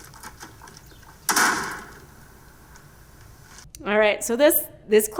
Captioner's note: door slamming